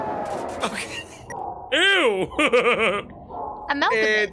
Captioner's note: laughs